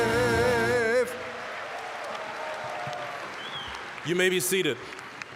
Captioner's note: applause, cheering